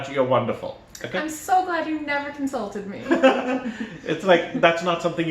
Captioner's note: laughter